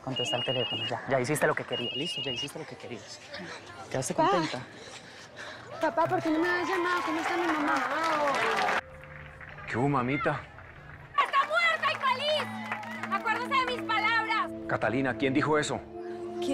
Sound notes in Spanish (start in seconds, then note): 8.3 Aplausos